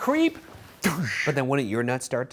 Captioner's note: imitates kick thudding